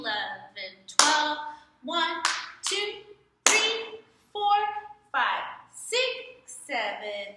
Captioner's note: clap